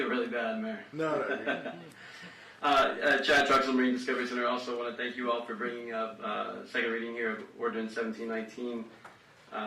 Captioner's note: laughter